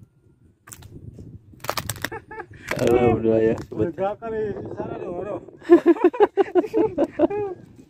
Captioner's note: laughs